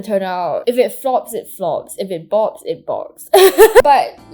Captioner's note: laughs in cringe